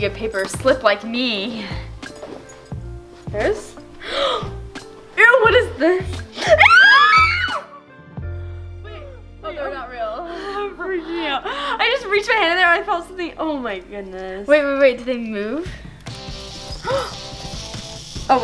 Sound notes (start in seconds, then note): 4.0 gasps; 6.4 screams; 16.1 upbeat rock music